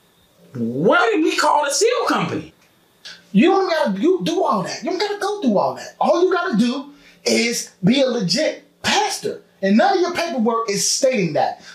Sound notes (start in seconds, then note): none